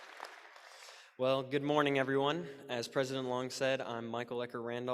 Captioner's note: applause